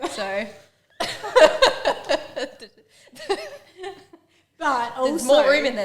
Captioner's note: laughing